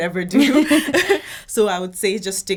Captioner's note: laughing